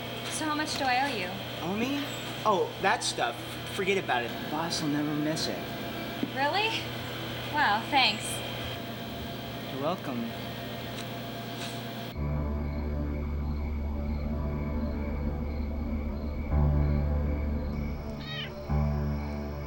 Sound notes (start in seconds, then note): 18.2 kitten meows